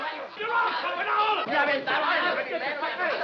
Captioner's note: yelling